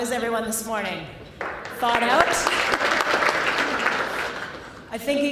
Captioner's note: clapping